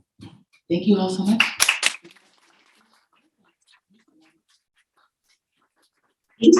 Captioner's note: audience applauding